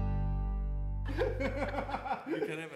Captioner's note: laughs